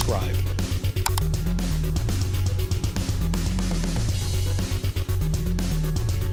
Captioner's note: upbeat rock music; gun clicking